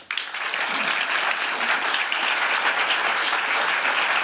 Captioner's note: applause